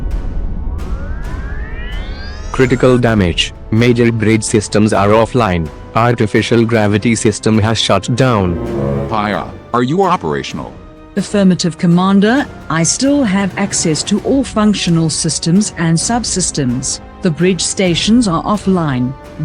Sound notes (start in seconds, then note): 1.5 sounds of power systems